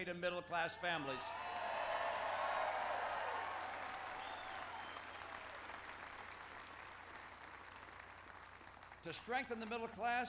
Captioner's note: applause